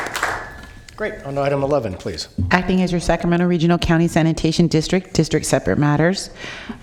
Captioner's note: applause